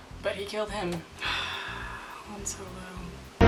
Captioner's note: deeply sighing